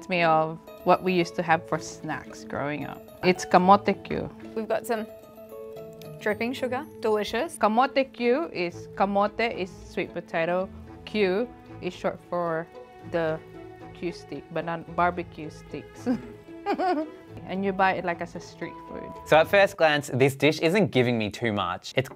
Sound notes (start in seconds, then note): 16.6 laughs